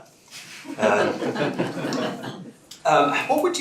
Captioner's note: laughter